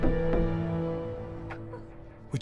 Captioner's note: weeps